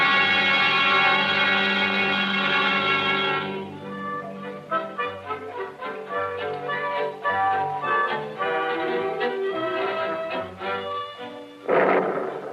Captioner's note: siren wailing; thunder